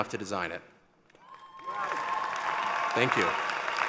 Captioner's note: cheering